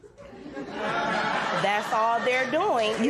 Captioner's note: laughter